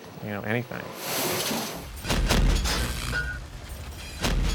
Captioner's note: metal Clanging